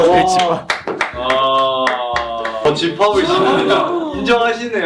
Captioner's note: members booing